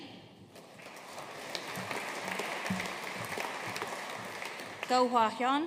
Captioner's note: audience applauding